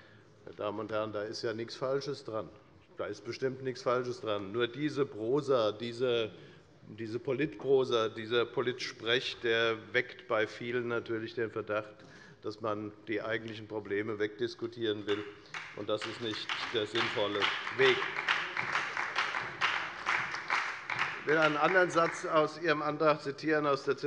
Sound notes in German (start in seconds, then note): 18.3 Beifall bei der FDP und der SPD